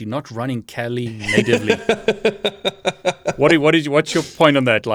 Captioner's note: laughs